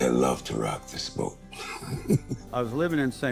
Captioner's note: laughs